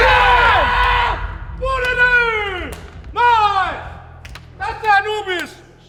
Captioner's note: players exclaiming; karrigan screaming